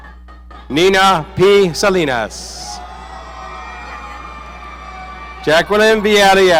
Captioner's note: audience cheering